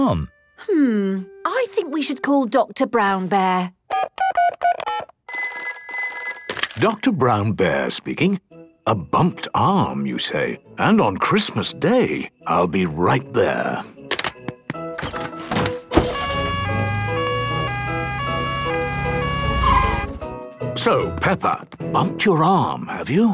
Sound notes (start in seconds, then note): 3.7 dial tones beeping; 5.4 ringing; 16.0 siren sounding